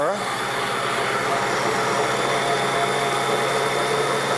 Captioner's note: blender whirring